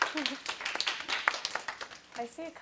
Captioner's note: applause